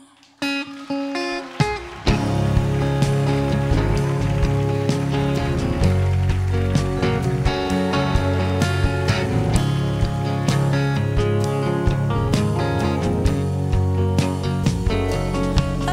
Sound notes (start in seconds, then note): 0.0 audience cheering